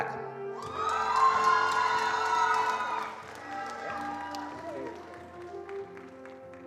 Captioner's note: attendees cheering and applauding